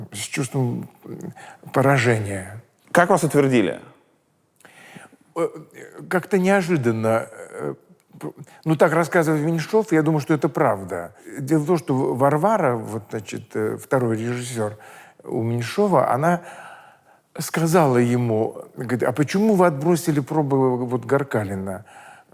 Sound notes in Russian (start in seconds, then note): none